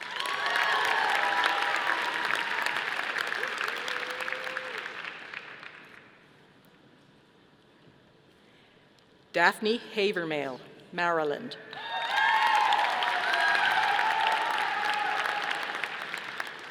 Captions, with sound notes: (audience applauding) Daphne Hawvermale, Maryland. (audience applauding)